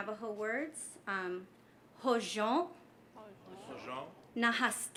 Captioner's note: speaking navajo